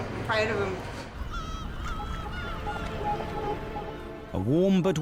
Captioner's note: seagulls squawking